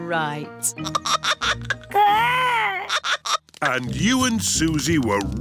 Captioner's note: giggling